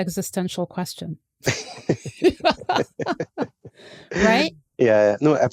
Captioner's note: laughter